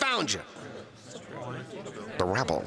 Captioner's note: murmuring